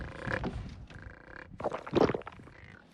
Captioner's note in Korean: 꿀꺽